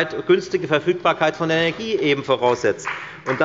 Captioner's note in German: Beifall bei der FDP